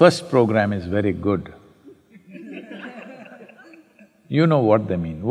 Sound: laughter

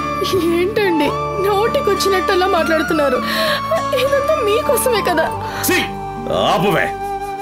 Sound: none

